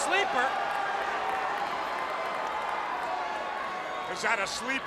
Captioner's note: crowd cheering